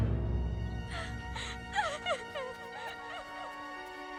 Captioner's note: crying